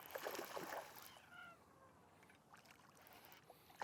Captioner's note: water splashes